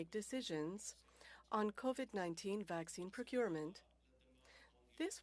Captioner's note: speaking French